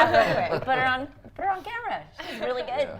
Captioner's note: everyone laughs